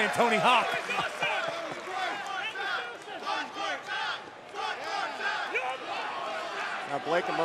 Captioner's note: crowd cheering